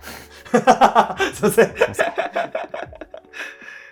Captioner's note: laughing